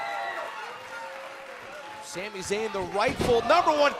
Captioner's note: cheers & applause